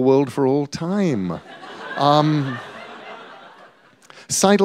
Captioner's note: laughter